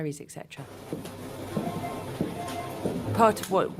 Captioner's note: phone ringing